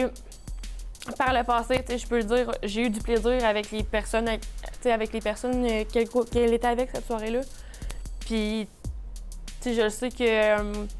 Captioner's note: speaking french